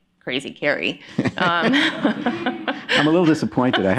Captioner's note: laughter